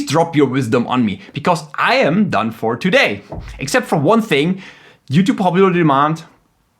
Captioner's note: punches mic